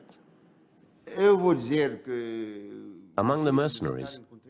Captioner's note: non-english speech